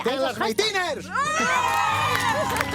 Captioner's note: screams